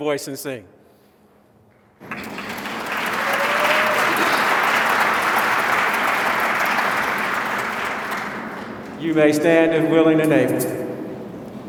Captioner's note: applause